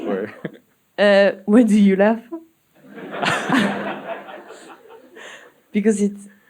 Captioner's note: audience laughing